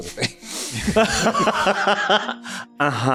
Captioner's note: laughter